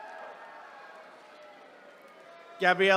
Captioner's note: attendees cheering